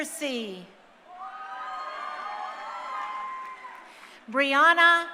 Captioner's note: crowd cheering